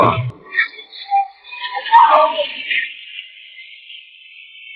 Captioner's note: clamouring, screaming